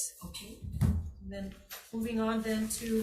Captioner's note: none